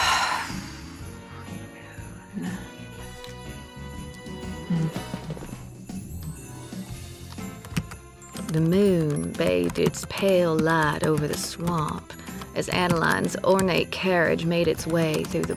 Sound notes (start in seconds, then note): 0.0 sighs; 8.3 typing resumes